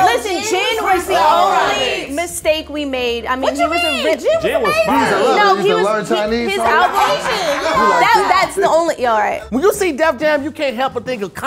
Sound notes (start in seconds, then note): 0.0 overlapping chatter; 4.6 overlapping chatter